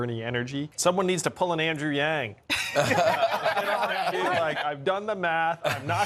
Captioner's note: laughter